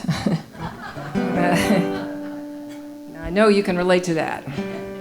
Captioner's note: laughing